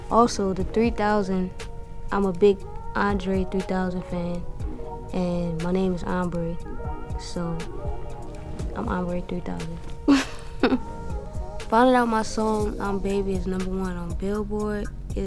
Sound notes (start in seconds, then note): 6.9 laughs